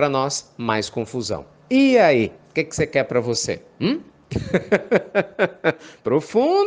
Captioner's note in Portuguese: Risos